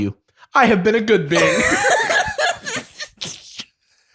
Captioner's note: laughter